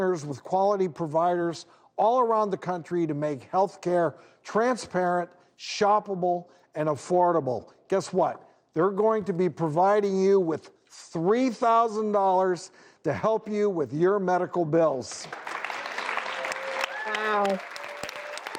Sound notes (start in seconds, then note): 15.2 applause